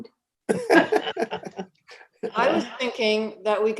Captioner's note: all laughing